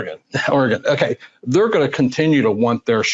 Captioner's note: laughs